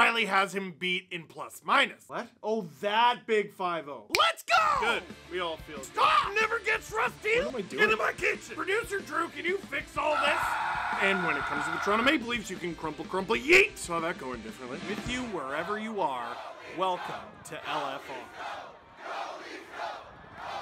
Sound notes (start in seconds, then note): 10.1 screaming